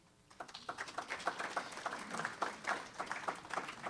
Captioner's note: applause